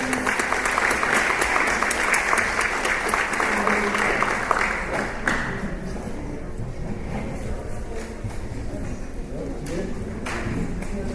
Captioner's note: applause